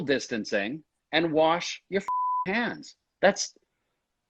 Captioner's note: beep